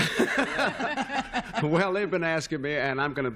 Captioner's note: laughter